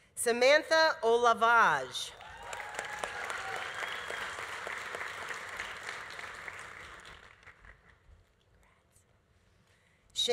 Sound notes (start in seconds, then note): 2.1 audience cheering; 2.1 audience applauding